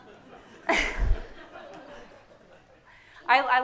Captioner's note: everyone laughing